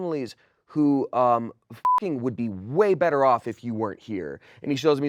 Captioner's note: beep